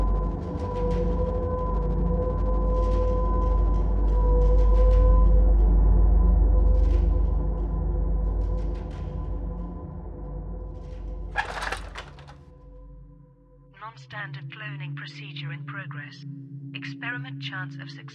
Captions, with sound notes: (buttons clattering) - [AI Voice] Non-standard cloning procedure in progress.